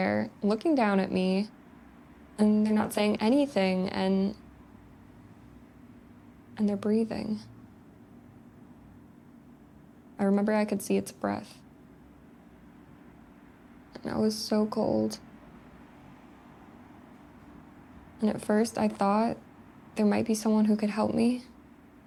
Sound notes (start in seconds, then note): none